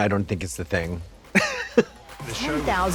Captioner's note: Katya laughs